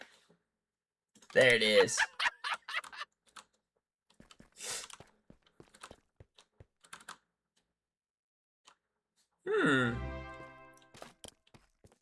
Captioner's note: laughter